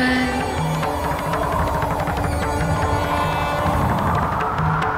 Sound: wind blowing

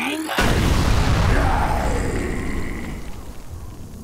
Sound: growling

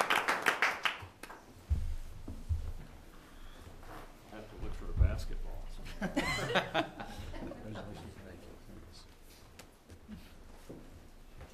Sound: applause

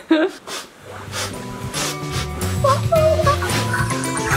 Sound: sniffing

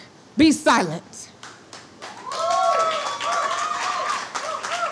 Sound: audience clapping

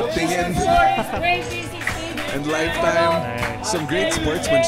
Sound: laughing

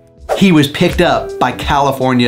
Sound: screen swooshes

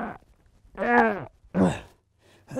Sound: montage groan

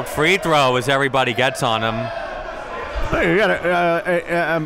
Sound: yelling and jeering; stammers

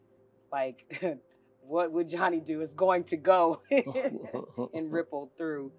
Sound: laugh

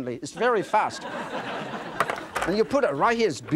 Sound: audience laughs

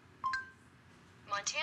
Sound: electronic voice

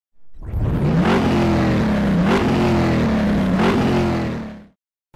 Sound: engine revving

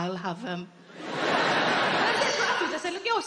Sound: audience laughing

